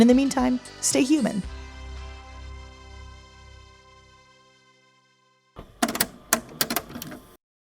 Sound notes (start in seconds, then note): 2.3 theme music plays; 5.6 cassette player clicks closed